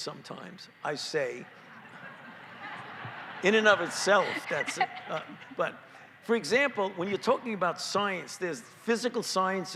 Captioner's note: laughter